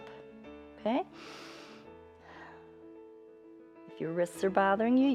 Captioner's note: inhales and exhales